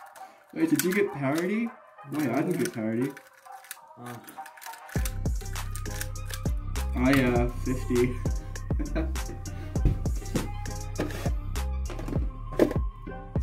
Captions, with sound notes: Wait, did you get parity? Wait, I didn't get parity Oh Oh yeah Fifty [Giggles]